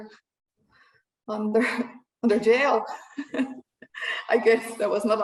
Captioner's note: chuckles